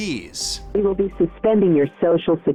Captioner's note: robocall